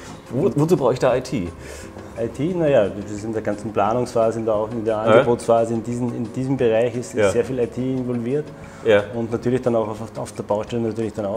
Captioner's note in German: lacht